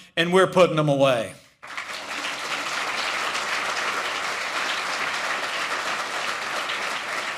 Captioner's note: applause